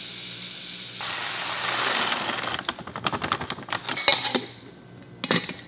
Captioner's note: beans softly pouring